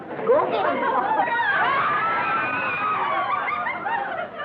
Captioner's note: yelling